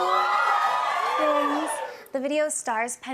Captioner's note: cheers and applause